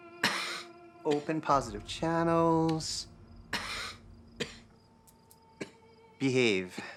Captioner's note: coughs; Robin coughing